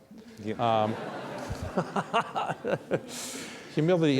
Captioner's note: audience laugh